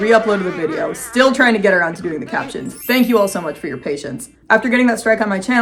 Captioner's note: squidward crying sounds; pretty sound effect